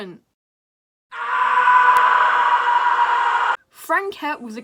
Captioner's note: screams of terror